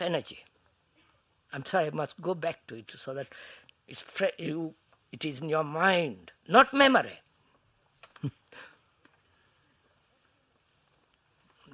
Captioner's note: laughs